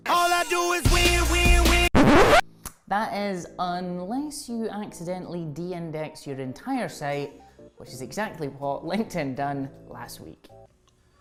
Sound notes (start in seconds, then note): 1.8 record scratching